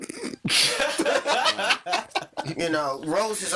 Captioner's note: all laughing